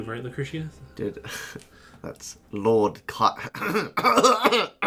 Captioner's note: scoffs; clears his throat dramatically